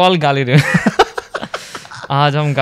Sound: laughs

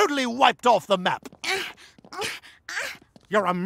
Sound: grunting

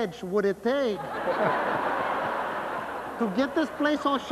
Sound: laughter

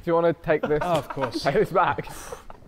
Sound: Sidemen laughing

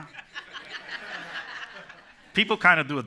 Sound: laughter

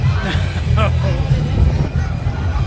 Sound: laughs

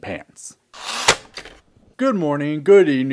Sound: typewriter sound

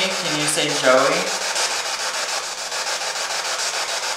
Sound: static

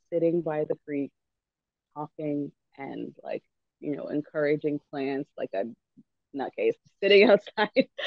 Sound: laughs

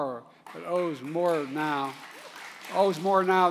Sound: applause

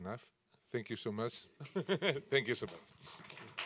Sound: chuckles

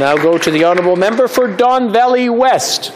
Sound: some Applause

